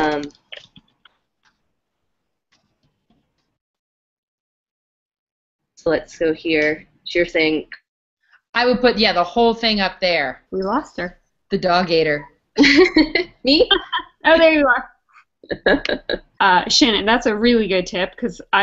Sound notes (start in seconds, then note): 12.9 laugh